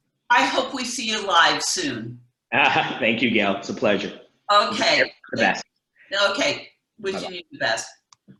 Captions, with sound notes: I hope we see you live soon. - (laughs) Thank you, Gail. It's a pleasure. - Okay. - Wish you all the best. - Okay, wishing you the best.